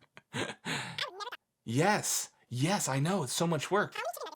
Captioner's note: laughs; cartoon voice